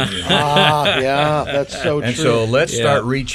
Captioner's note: men laughing